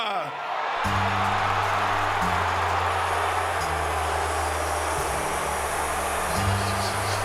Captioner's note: audience cheering; upbeat music